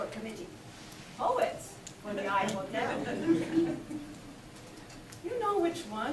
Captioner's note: audience laughs